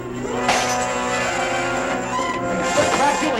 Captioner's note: smashes